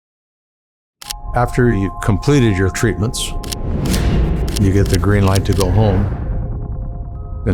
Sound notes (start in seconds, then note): 1.0 camera click; 3.8 camera clicking